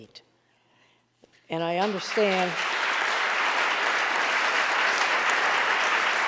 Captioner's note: audience applauding